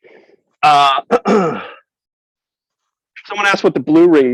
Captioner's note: clears throat